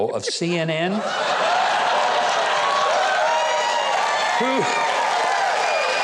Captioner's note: audience laughs